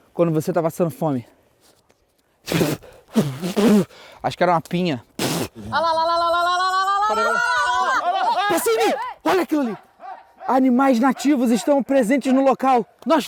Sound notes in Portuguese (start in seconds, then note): 2.4 som do cuspindo